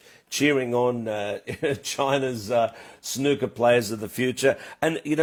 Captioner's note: laughs